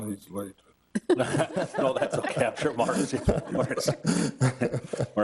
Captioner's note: Committee laughing